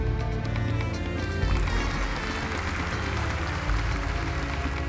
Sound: audience applauding

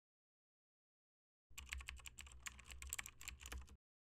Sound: typing

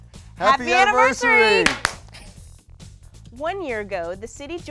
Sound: said in unison; popping

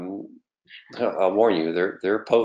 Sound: laughing; laughs

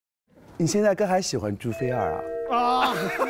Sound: gossip interview in dialect

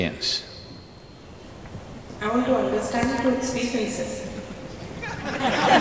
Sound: laughter

